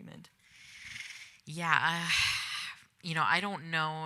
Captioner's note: sighs